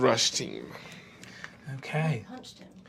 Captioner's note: quietly